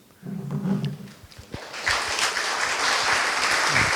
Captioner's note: applause